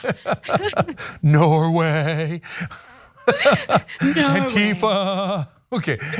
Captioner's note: laugh